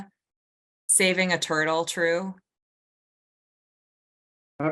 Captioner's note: silence